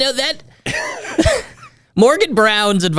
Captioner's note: both laughing